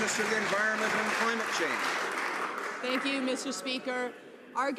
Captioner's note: some Applause